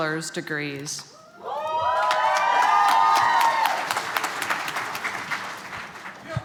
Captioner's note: applause